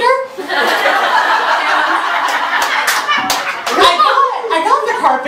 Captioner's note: audience laughter